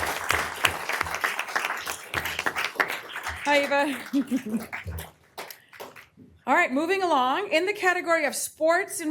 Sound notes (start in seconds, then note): 3.6 applause